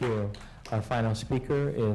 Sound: applause

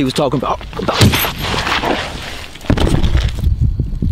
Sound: thudding

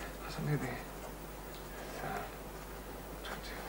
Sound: mutters

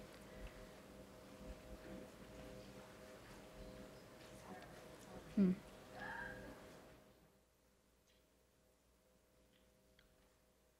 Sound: background Conversation

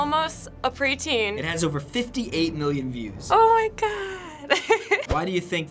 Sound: giggles

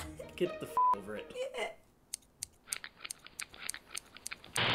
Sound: scissors snipping

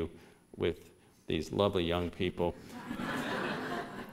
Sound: laughter

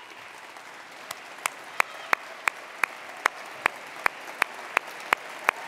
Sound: attendees applauding and cheering

